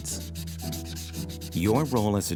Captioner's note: eraser erasing; light upbeat music